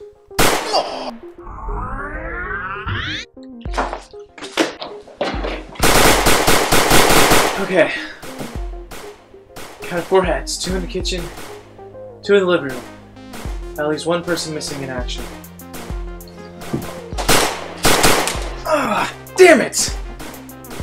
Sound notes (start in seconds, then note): 0.0 sigh; 0.2 bang!; 1.5 rewind sound effects; 3.6 footsteps; 5.2 bang! bang! bang! bang! bang! bang!; 8.4 gunshots in background; 17.1 bang! bang bang!